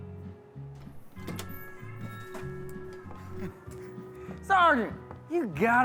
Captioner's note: door creaking